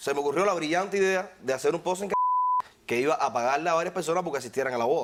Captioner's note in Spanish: Bip